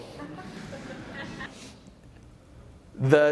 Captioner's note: laughter